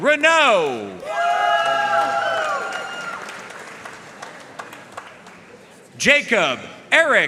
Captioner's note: audience cheering and applauding